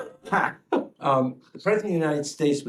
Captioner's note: laughter